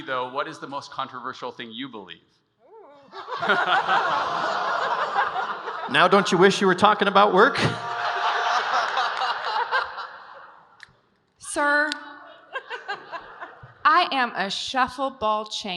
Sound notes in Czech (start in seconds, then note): 3.0 smích